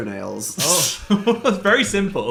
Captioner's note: laughing